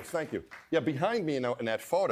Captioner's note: applause